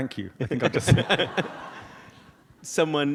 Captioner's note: audience laughs